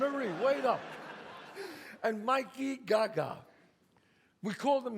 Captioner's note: audience laughs; laughs